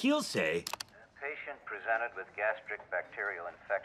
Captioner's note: recording of doctor speaking